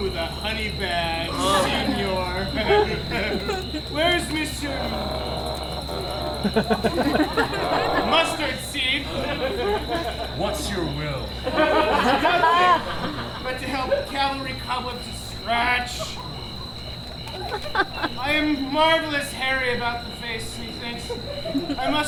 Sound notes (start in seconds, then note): 3.1 laughs; 7.2 groans; 11.7 audience laughs